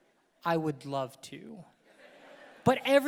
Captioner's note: audience laughing